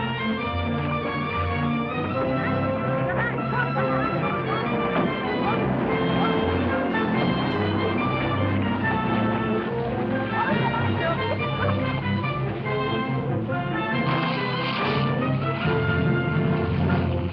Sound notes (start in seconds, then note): 4.5 car door thuds; 5.7 car engine revving